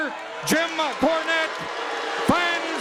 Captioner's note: audience booing